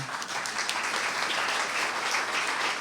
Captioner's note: applause